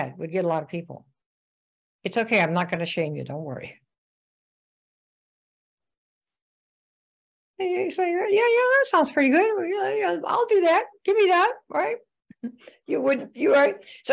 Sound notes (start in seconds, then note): 12.4 chuckles